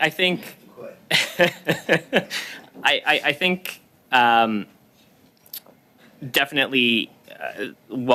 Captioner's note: laughter